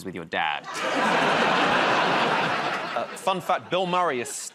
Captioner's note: laughter